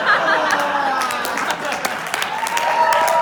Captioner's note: loud applause